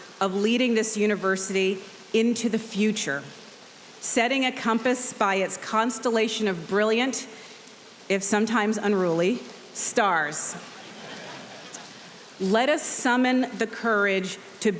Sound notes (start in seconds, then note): 10.7 audience laughs